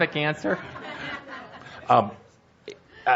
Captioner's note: laughter